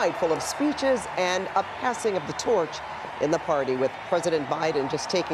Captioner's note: cheering